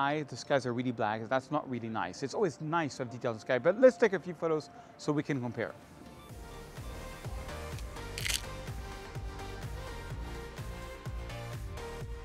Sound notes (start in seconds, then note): 6.0 upbeat music; 8.1 camera clicking